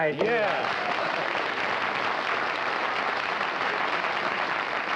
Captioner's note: applause